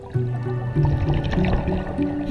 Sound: water gurgling; playful ambient music

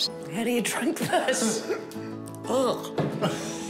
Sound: laughs; laughs

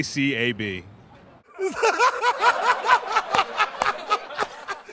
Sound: laughter

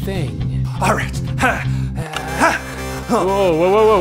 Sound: button clicks

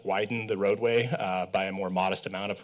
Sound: sighs

